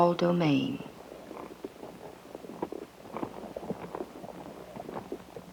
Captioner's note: horse hooves sounds